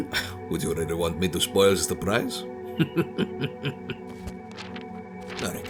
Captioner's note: laughs